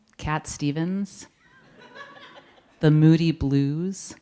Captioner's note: audience laughing